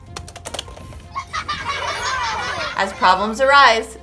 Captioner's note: laughing